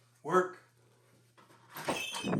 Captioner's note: door creaks; wind blowing